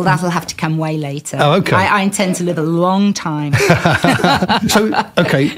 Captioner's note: laughter